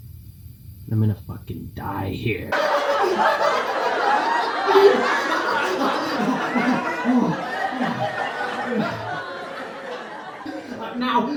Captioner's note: laughter; laughing